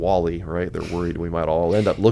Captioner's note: laughs quietly